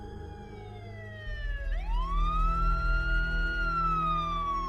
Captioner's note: sirens wailing